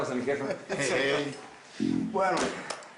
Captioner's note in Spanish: Risas